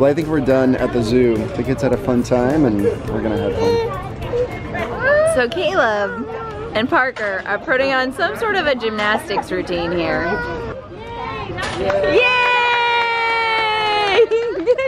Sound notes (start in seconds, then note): 11.0 cheering